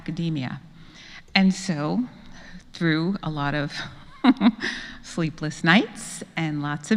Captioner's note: laugh